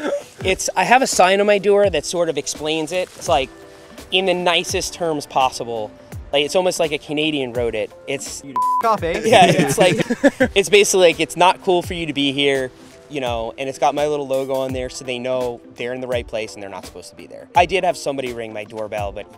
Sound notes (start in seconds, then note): 8.5 beep; 9.1 laughs